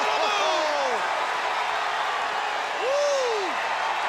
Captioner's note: crowd cheering